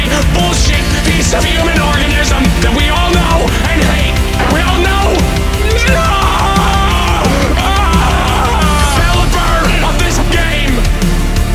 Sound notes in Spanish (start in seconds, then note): 6.4 se transforma en gemidos; 7.3 Gimiendo en agonía